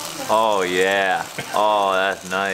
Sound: buzzing

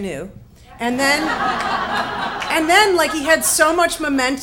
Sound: audience laughs

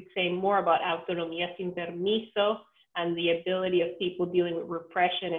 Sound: spanish speech

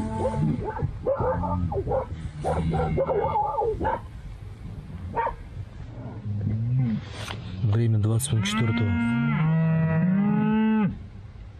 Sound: the dog is barking, cows moo

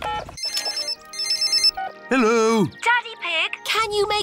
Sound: phone rings

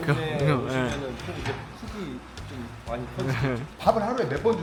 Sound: laughs

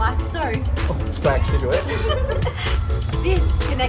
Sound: giggles

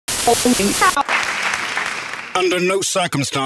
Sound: audience applause

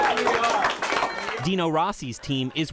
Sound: cheering

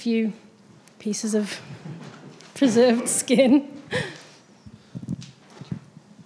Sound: laughs

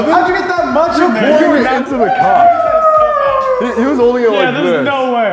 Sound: arguing

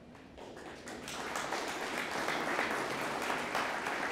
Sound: audience applauding

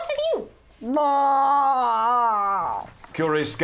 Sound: groaning

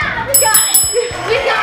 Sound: bell dings

